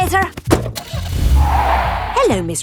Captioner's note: car starting; tires screeching